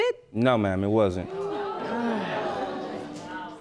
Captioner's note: sighs